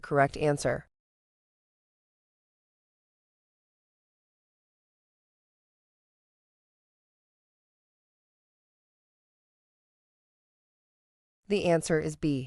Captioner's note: no audio